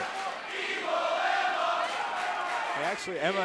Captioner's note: crowd cheering